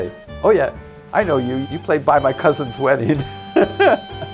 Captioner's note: laughs